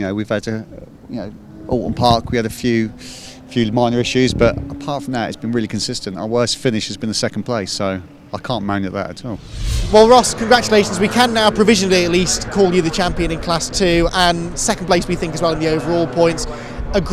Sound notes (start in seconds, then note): 9.1 engines roaring